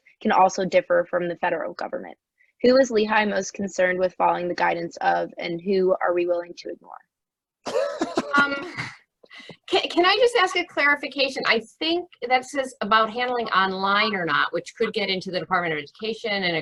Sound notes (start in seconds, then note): 7.6 laughter